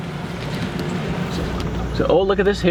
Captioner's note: engine revving